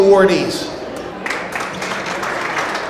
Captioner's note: audience applauds